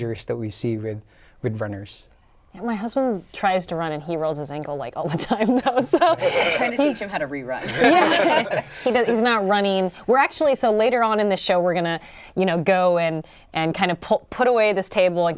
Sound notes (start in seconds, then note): 7.6 laughter